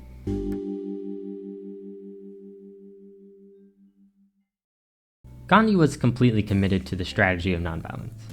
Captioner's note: transition ding